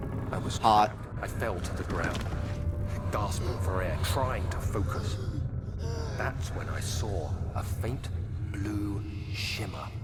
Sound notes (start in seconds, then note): 5.9 loud gasping